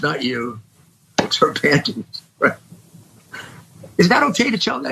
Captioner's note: laugh